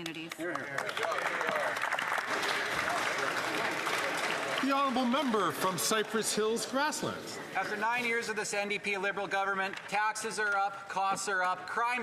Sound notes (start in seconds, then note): 3.4 some Applause